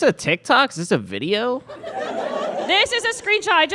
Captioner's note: audience laughs